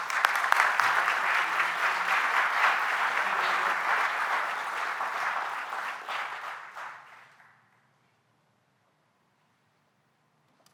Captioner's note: applause